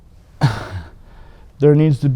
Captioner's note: laughs